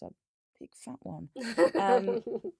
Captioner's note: laughs